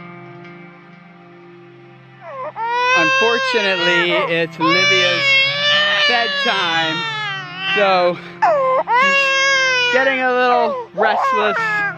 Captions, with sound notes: (baby crying) - Unfortunately, it's Livia's bedtime. So she's getting a little restless and wants